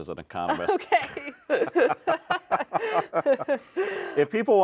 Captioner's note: both laughing